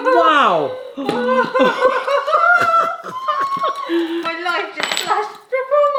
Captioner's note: laughing nervously